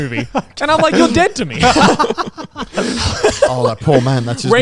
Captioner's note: everyone laughs